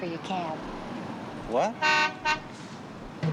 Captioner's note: horn honks